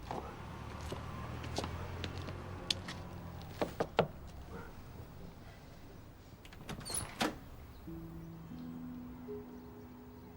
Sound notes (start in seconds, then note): none